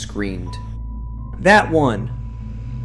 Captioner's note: shouts